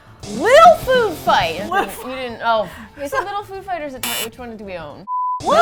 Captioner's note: laughs